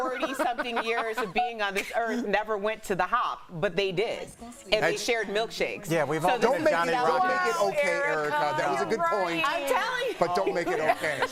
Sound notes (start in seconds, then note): 0.0 laughter